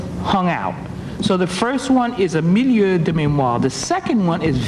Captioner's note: speaking foreign language